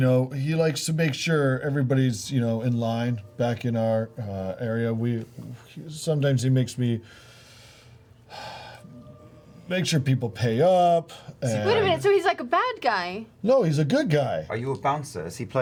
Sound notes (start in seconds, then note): 8.3 sighs